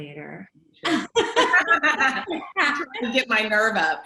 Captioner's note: laughs